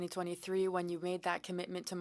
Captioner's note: speaking French